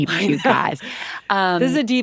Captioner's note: chuckles